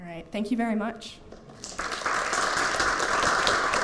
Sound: applause

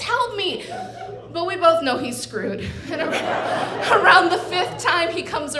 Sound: audience laughing

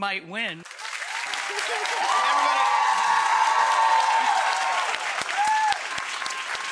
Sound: audience cheering

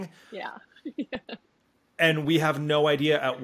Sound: laughs

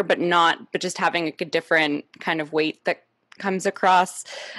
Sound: none

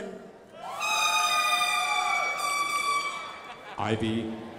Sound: crowd applauding

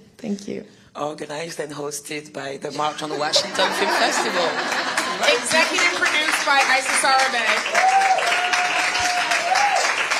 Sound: laughter

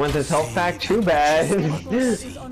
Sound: laughs

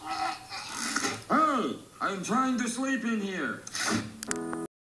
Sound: shutters open

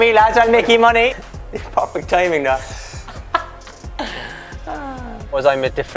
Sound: laughter

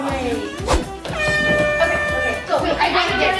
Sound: air horn blows

